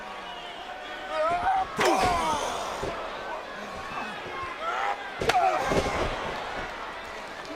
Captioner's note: Kane shouts; Undertaker grunts